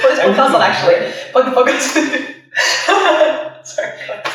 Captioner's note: laughs